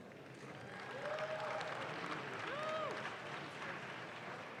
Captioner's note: audience claps